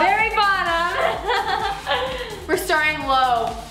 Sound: laughing

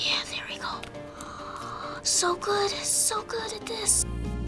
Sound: whispering; soft breath

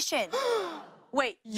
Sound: gasps

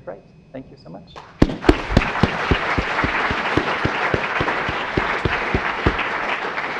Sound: applause

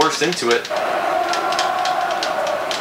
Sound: Ronaldo chants

